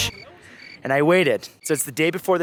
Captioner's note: crickets chirping